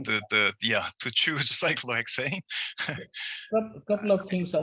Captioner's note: chuckles